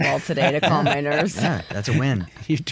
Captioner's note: laughs